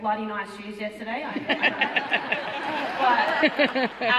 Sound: audience laughing

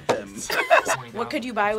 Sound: both laugh

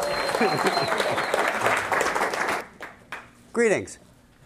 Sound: cheers and applause

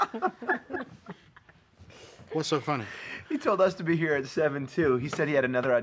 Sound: laughter

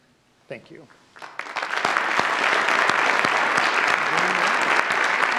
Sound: audience applauds

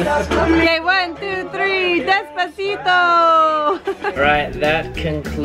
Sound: laughs

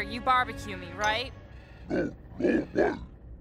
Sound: growls negatively

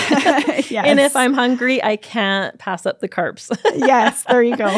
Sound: laughs

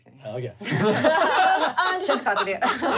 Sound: laughing

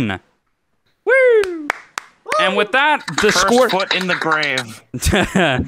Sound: claps; laughs

